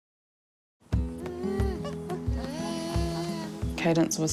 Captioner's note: whines softly